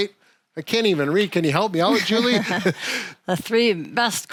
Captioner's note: laughs